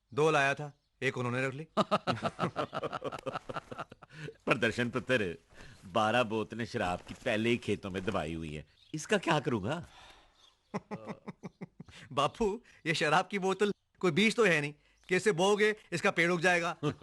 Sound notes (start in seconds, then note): 1.8 laughing